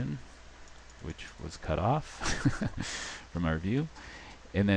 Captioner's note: chuckling